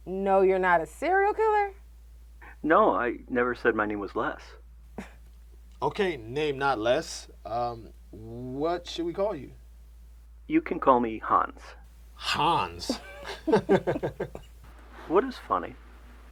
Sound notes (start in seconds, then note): 5.2 Terra scoffs; 12.2 Cedric and Terra laugh